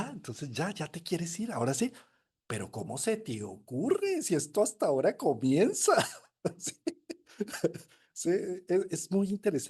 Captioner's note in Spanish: risas